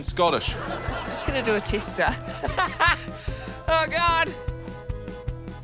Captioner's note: laughs